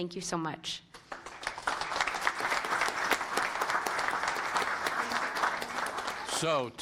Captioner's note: applause